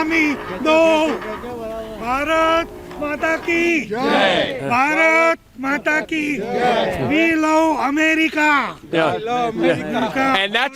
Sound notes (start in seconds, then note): 5.8 speaking foreign language